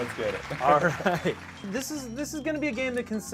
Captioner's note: laughs